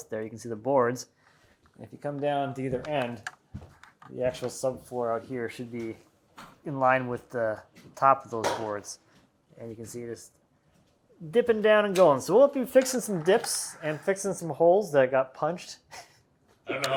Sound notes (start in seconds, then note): none